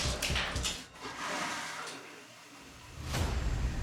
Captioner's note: toilet flushes